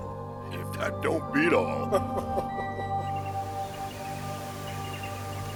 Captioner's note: Warren chuckles; slow music